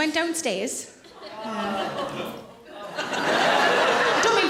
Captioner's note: audience laughing